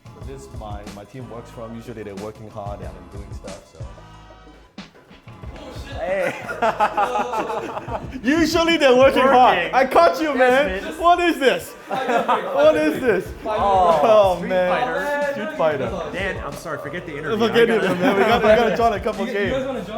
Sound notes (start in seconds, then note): 0.3 upbeat music; 6.9 laughs